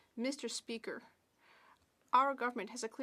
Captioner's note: speaking French